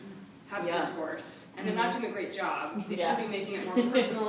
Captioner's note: laughter